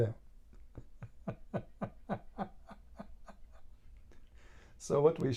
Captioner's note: Ketawa